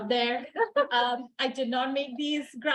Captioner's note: chuckling